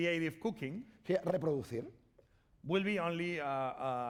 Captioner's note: speaking spanish